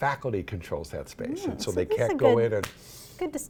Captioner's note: clap